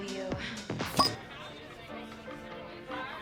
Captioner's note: bottle cork popping